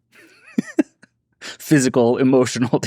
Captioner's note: laughs